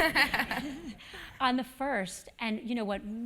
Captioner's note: laugh